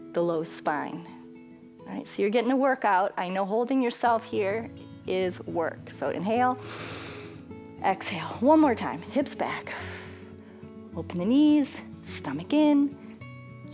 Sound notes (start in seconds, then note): 6.6 inhales; 10.2 exhales